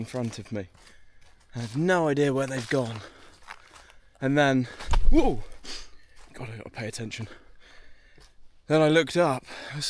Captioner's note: trips over